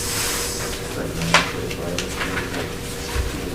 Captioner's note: murmurs